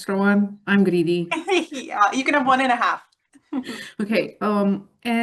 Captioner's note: laughs